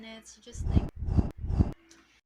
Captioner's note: whoosh, whoosh, whoosh